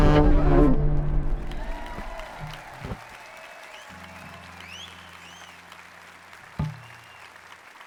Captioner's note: applause